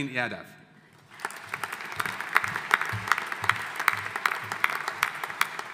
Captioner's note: audience applauding